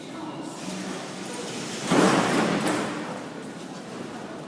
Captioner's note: closing doors